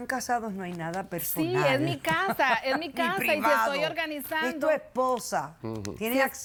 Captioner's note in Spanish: Risas